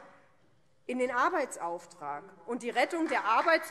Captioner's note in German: Beifall Freie Demokraten